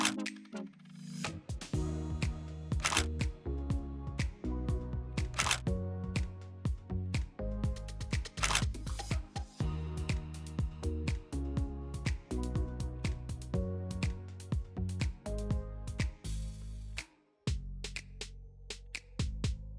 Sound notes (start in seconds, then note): 0.1 shutter clicks; 8.4 shutter clicks